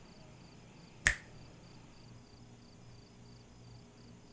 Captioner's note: finger snaps